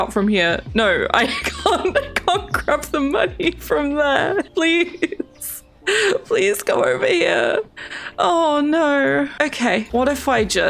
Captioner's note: laughs